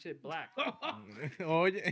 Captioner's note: laughing